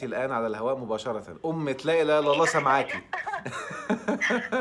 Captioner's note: laughs!